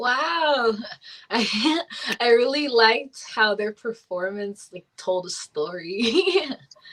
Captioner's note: laughs